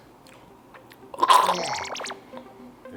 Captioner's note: coughs